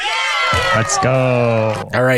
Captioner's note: crowd cheers